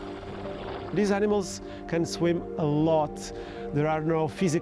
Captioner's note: water splashes